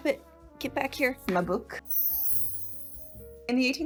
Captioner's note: chimes chiming